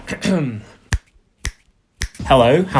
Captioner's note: snapping fingers sound